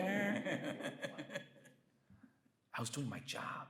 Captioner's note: Bob laughs